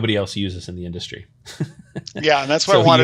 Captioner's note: laughs